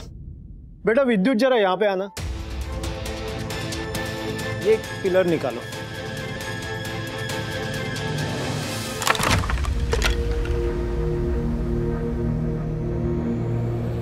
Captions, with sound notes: Come here, Vidyut. Take out one pillar. [suspenseful music playing] [thud]